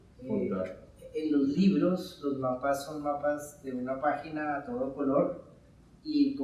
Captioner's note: speaking in Spanish